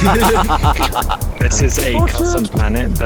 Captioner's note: everybody laughing